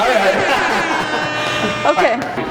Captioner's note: air horn sound effect plays